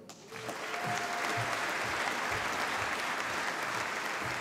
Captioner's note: applause